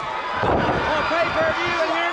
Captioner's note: Ric thudding on ring